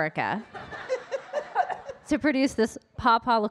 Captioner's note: audience laughing